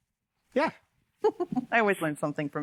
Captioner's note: chuckles